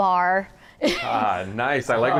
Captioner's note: laughs